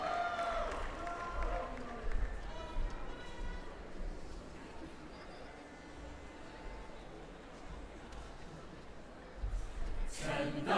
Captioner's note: applause